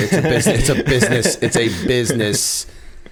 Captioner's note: laughter